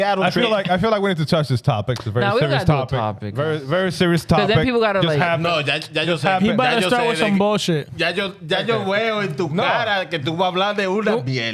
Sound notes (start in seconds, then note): 10.1 speaking In Foreign Language